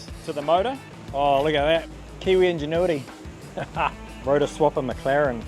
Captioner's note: laughs